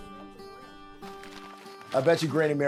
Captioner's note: paper rustles